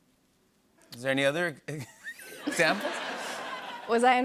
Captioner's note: laughter